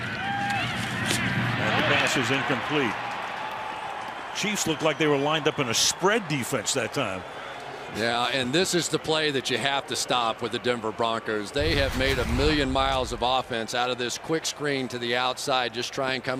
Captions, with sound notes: And the pass is incomplete. [cheering] Chiefs looked like they were lined up in a spread defense that time. Yeah, and this is the play that you have to stop with the Denver Broncos. They have made a million miles of offense out of this quick screen to the outside.